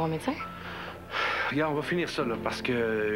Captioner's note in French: Il soupire bruyamment